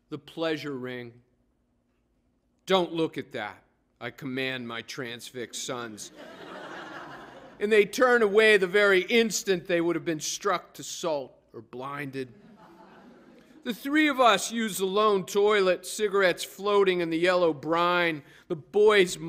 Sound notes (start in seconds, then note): 6.0 laughter